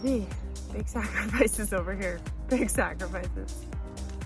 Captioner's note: chuckles